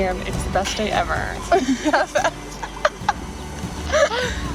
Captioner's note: laughter